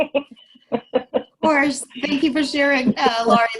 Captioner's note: laughter